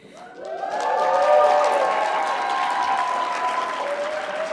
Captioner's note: audience cheering